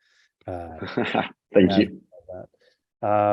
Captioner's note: laughs